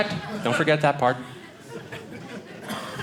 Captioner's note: audience laughing